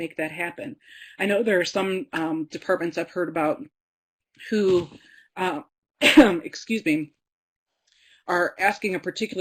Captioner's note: coughs